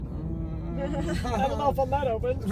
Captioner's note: hesitant response